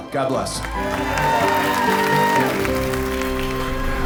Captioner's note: guests cheering, clapping